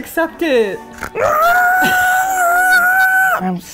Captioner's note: shrieking